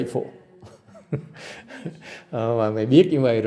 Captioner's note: laughter